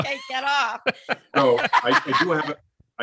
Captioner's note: laugh